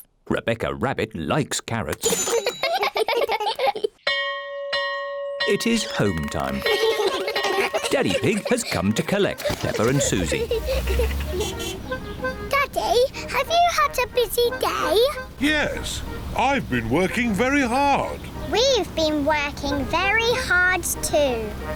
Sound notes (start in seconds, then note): 2.2 all giggle; 4.0 bell rings; 6.1 all giggle